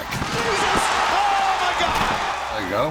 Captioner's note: applause